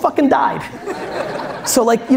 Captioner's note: audience laughs